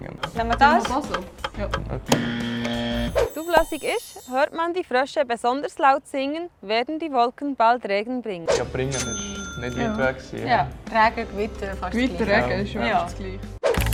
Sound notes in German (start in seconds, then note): 2.1 Buzzer falsch